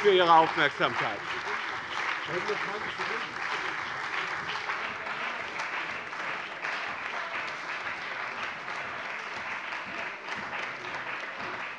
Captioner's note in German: Anhaltender Beifall bei dem BÜNDNIS 90/DIE GRÜNEN und der CDU